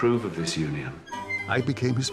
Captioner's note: door creaks